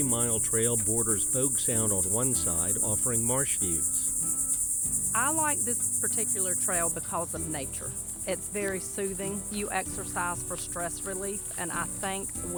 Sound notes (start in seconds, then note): 5.3 insects clittering; 5.3 soft music